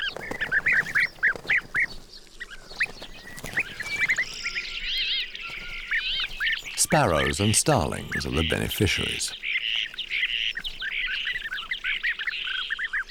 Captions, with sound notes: [birds tweeting] Sparrows and starlings are the beneficiaries. [birds tweeting]